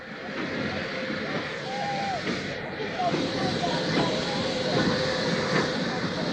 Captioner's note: train arrives